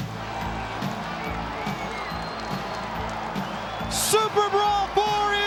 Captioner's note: crowd cheering